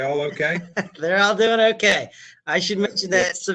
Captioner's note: laughs